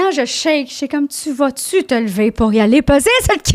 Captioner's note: in french